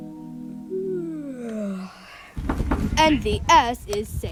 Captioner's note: yawn